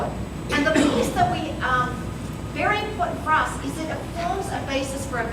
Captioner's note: coughing